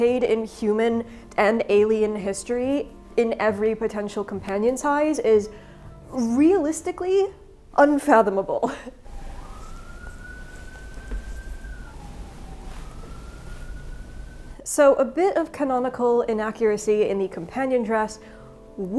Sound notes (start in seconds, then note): 8.4 chuckling; 9.0 siren blaring